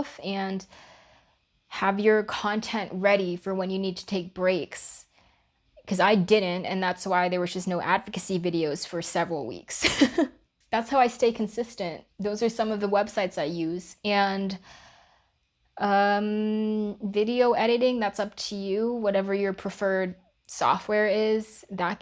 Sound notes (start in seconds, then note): 9.8 laughs